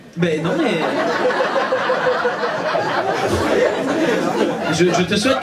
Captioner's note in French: rires public